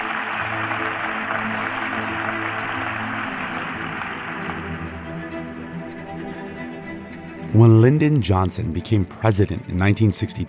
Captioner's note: applause